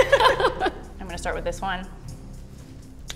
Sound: laughs

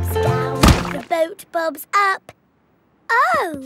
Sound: thuds

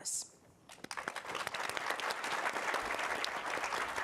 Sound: audience applauding

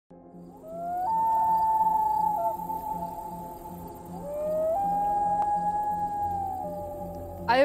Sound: distant loon sound

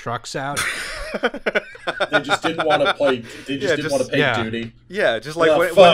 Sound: laughter

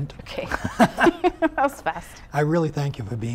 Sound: laughing

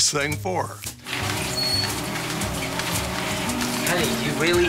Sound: treadmill grinding

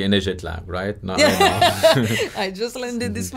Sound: laughs loudly

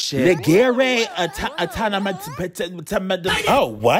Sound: speaking in foreign language

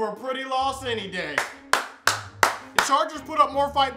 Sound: clapping

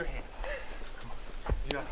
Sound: Jack gasps

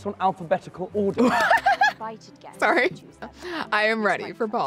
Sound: laughs

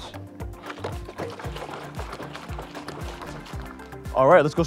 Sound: herbicide agitating

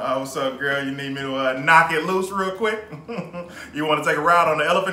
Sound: chuckles

